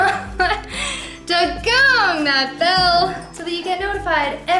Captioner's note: laughter